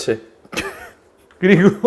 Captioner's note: cracking up just thinking about it